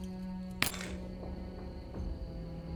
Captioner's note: clanks onto floor